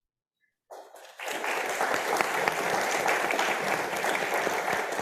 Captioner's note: audience applauding